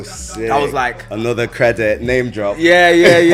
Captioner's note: laughs